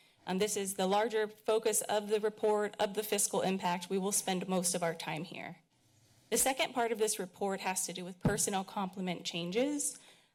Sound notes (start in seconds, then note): none